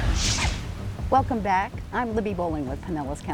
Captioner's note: thunder booming; rain falling